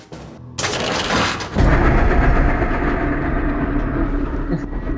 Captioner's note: eerie elevator noises